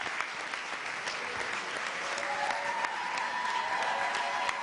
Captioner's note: cheers and applause